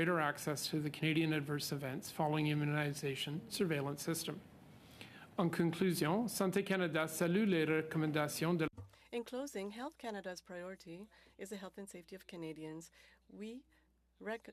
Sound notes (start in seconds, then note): 11.6 speaking French